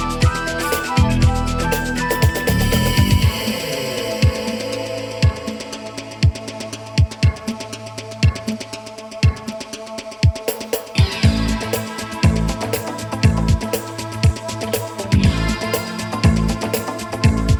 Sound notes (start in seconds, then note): none